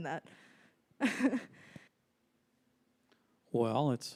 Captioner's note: laughs